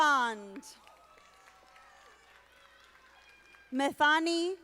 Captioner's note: audience applauding